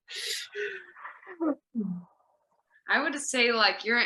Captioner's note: none